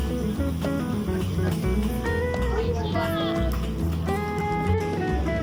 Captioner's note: laughs